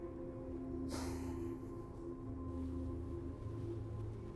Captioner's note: sighing